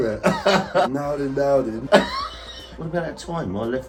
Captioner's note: dad laughing